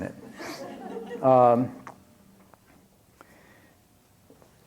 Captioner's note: laughter